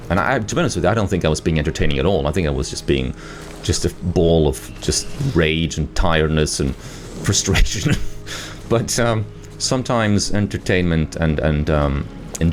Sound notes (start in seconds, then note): 7.2 laughs